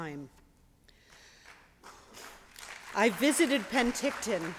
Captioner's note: applause